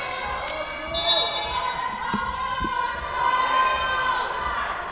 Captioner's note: whistle blowing